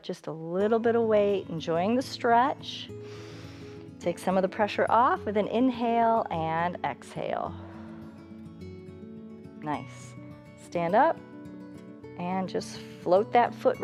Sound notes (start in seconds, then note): 3.0 inhales; 7.5 exhales